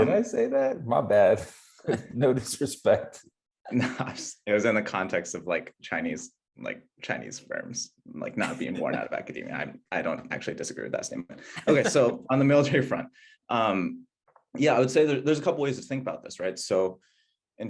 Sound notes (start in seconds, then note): 8.3 laughing